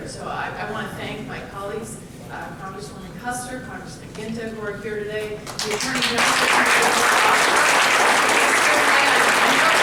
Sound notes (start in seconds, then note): 7.6 applause